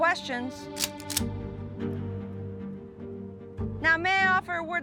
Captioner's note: cocks rifle